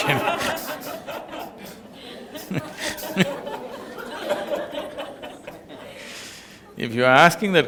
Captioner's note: laughter